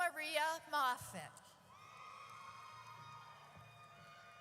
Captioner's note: audience cheers